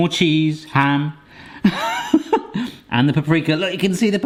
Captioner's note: laughing